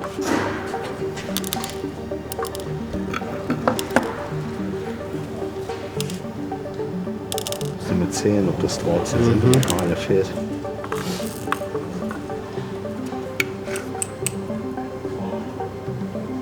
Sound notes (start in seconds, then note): 0.3 experimental music continues; 8.7 speaks German